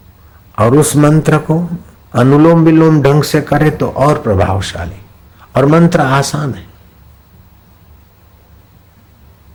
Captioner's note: alternate breathing from nostrils